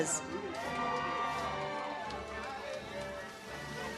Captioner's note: audience cheers